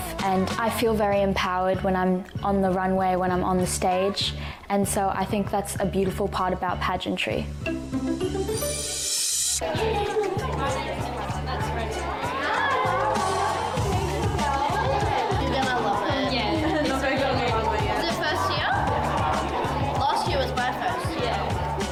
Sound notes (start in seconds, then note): 7.6 cheerful music; 13.3 people chattering